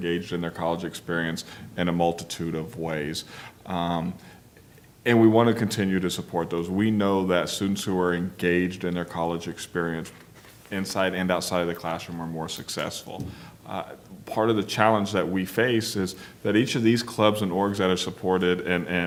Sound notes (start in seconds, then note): none